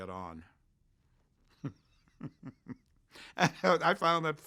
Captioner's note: laughs